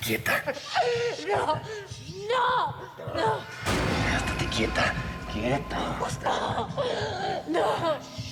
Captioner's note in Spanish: sollozos; sollozos